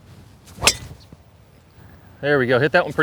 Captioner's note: golf strike